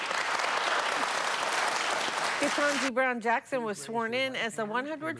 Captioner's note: applause